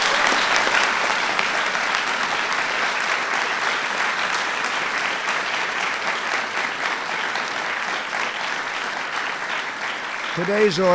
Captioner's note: applause